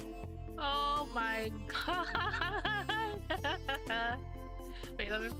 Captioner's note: laughing